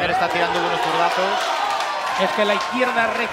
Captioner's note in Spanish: Gritos